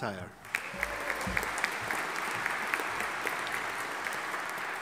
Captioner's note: audience applauding